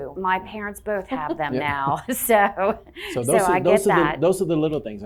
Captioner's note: chuckling